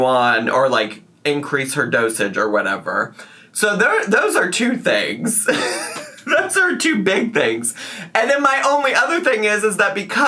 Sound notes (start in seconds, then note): 5.4 laughs